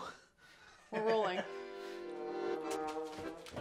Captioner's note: laughs; upbeat music